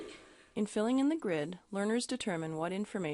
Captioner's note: voiceover